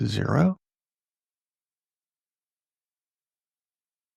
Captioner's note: blank Audio